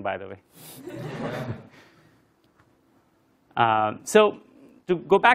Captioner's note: laugh